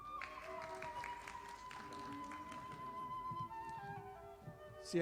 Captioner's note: audience applauding